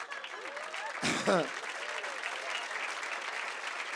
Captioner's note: cheers and applause